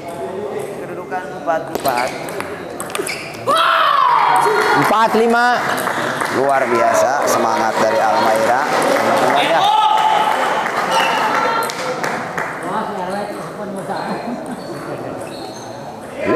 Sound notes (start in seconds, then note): 9.8 applause